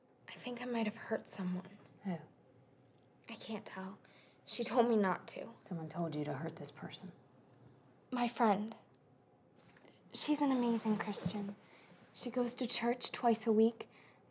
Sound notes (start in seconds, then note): none